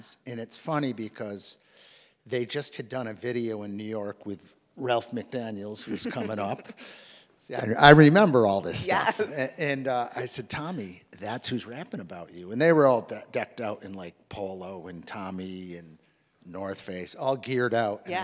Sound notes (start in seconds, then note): 5.8 chuckles; 9.1 laughs